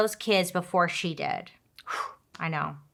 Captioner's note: exhales